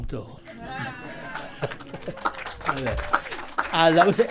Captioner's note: audience cheers and applauds